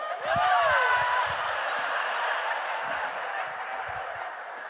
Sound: audience laughing

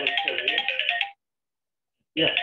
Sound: phone alarm

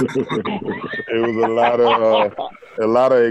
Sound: laughter

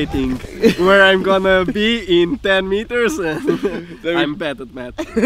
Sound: laughter

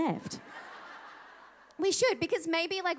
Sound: audience laughing

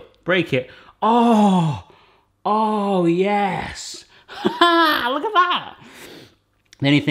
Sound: laughs

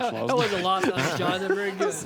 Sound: laughter

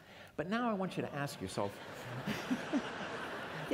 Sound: laughter

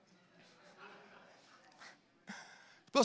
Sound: congregation laughing

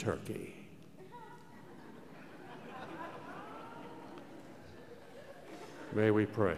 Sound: laughter

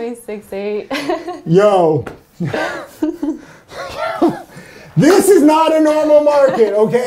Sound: chuckles; chuckles

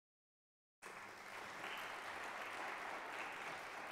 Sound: applause

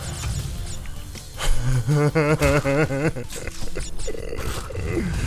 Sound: fearful crying

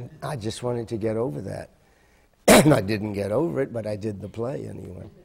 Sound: coughing

